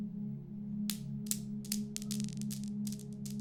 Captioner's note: balls bouncing